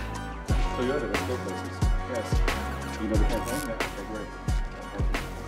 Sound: Jay speaking faintly

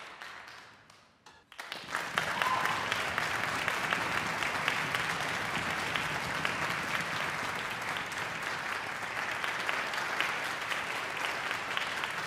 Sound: audience applause

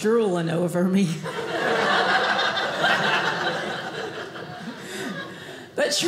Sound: audience laughing

